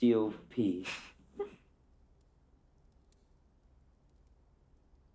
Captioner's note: Catherine giggling